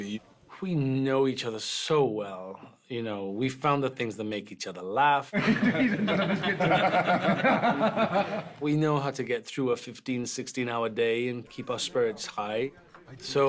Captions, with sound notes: ...we know each other so well, you know. We found the things that make each other laugh. [ALL LAUGHING] We know how to get through a 15-, 16-hour day and keep our spirits high.